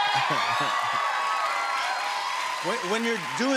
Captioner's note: cheers and applause